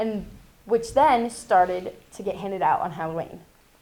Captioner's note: none